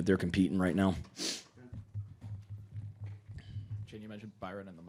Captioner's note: nose sniffling